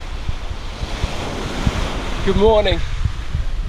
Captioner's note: ocean waves roaring